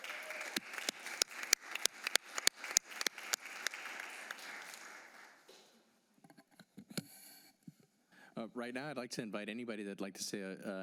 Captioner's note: applause